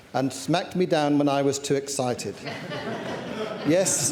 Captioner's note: laughter